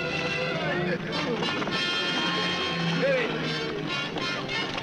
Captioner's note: all shouting